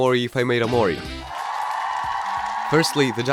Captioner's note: applause